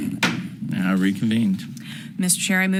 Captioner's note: gavel bangs